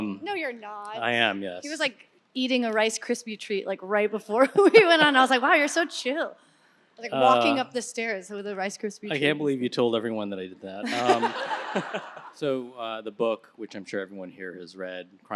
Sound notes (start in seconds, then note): 10.8 audience laughing